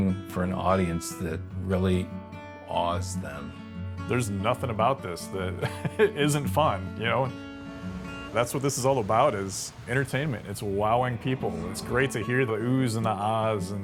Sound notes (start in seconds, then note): 5.5 chuckles; 7.4 relaxing music